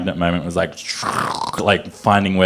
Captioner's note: imitates scratching sound